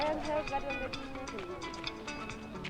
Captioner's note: indistinct chatter